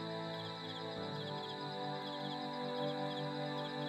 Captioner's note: crickets Chirping Continues